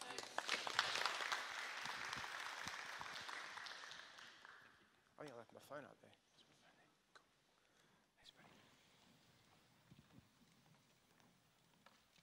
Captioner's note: applause